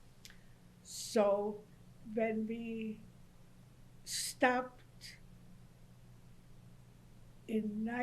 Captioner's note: pauses for 3 seconds